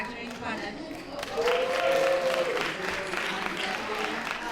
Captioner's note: applause